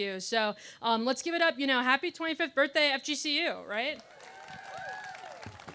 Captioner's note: aaplause